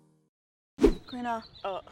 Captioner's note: whoosh